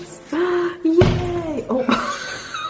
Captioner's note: door slams